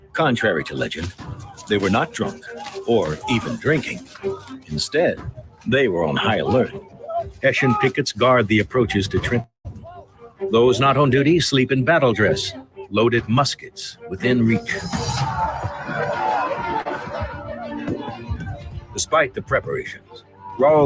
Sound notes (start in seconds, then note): 14.8 men yelling